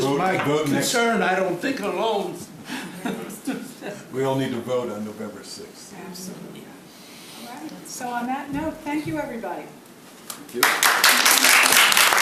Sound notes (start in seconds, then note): 10.3 applause